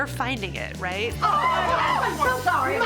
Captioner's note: screaming